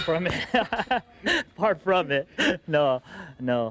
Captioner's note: laughing